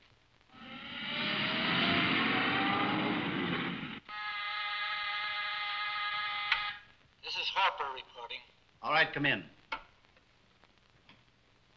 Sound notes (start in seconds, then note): 0.5 siren wailing; 4.3 buzzer ringing